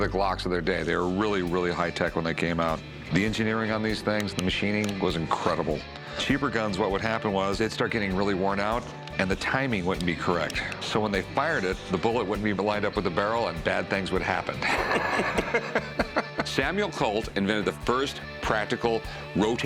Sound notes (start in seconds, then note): 14.6 laughter